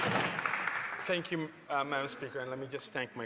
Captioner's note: applause